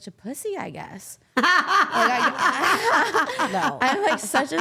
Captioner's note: Steph laughing